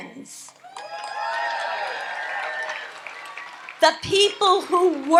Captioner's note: audience applauds and cheers